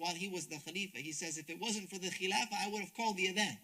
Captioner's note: speaks Arabic